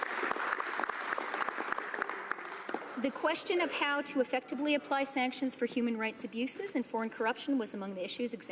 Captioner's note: applause